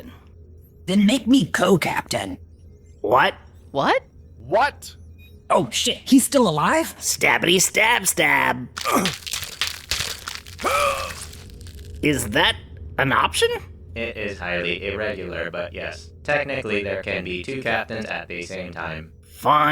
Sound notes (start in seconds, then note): 12.1 more gurgles and death